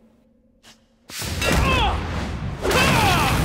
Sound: shouts in frustration

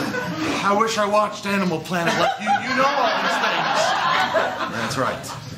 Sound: laughter; laughter

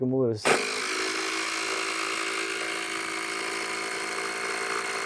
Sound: tool whirring

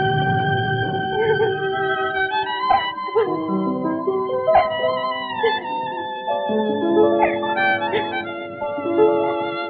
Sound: crying

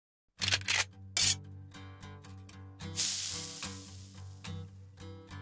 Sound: sizzle; gun cocks

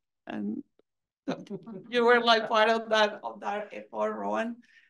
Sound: faintly speaking

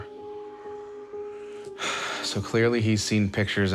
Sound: sighs

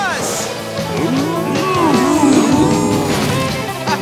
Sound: mooing; laughing

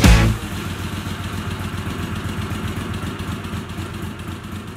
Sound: engine running

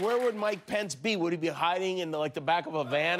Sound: applause

